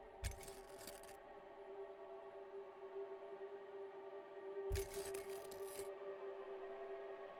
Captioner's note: eerie music continues; intense music; glass crunching